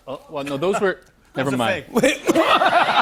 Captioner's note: laughter